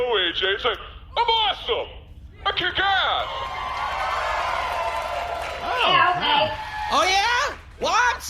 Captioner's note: audience cheering